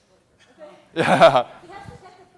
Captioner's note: laughs